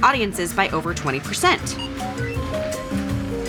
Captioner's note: scanner beeps; chime sounds